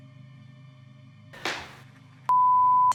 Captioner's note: loud crack